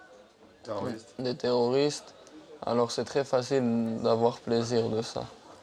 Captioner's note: French spoken audio